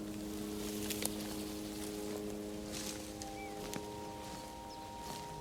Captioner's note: nature sounds continues